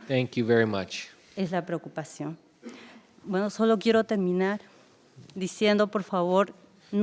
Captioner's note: speaking in foreign language